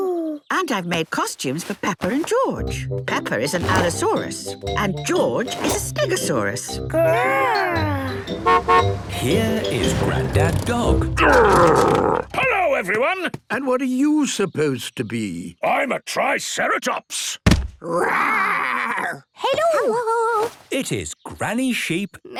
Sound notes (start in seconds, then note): 8.0 horn honking; 17.4 thudding